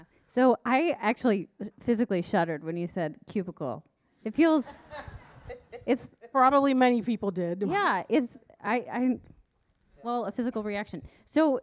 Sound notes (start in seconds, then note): 4.4 audience laughing